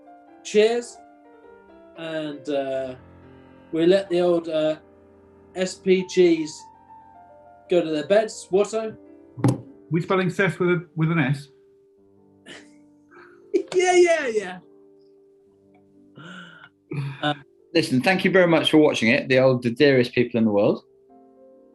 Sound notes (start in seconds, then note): 13.6 giggling